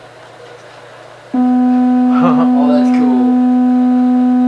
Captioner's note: low pitch humming